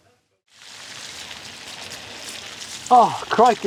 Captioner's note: rain falling